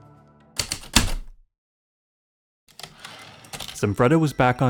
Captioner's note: typewriter keystroke, return slide